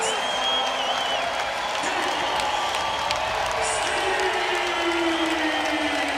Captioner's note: whistle blows; crowd loudly cheering and clapping